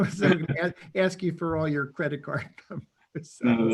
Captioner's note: chuckles